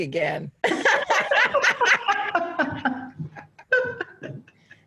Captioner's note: both laughing